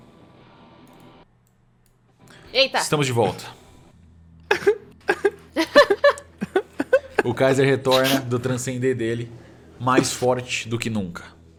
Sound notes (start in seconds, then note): 4.5 laughs